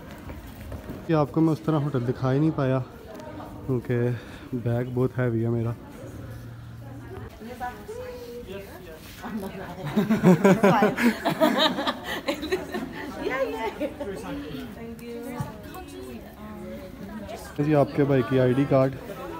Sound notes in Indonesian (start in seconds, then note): 9.8 Tertawa